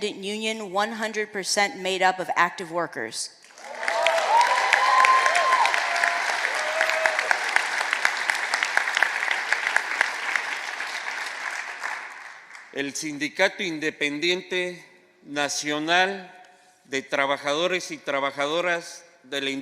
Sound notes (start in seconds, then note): 0.0 speaking spanish; 8.2 applause; 18.2 speaking spanish